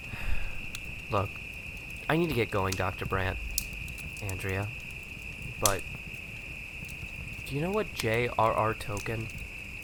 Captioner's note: sigh